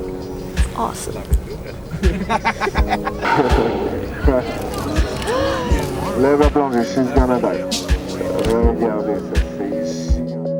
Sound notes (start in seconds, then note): 0.9 passenger laughing; 4.9 crowd gasping